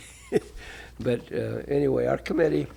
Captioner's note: laughter